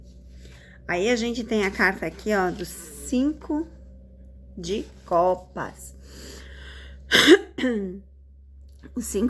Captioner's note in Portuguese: limpando a garganta